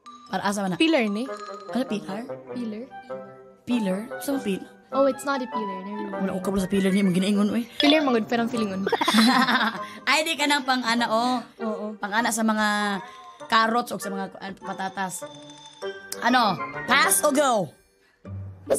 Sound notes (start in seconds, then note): 8.8 laughs